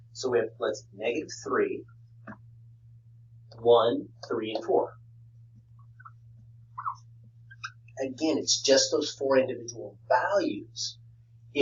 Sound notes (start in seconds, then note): 6.8 pen squeaking